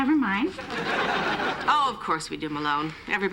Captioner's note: laughter